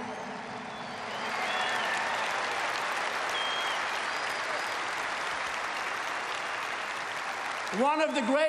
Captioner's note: applause